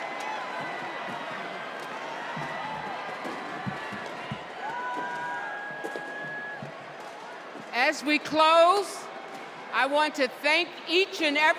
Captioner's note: cheers and applause